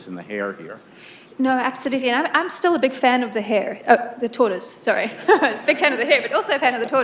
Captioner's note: laughter